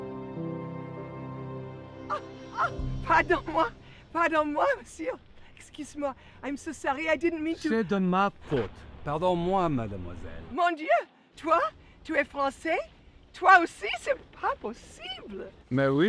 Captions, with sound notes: [peaceful music ends] [Pauline speaking in French] - I'm so sorry, I didn't mean to. [Jean-Jacques speaking in French] [Pauline speaking in French]